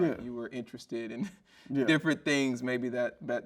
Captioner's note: chuckles